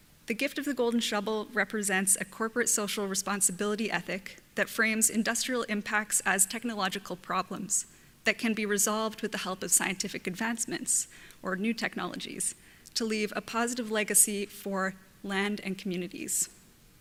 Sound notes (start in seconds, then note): none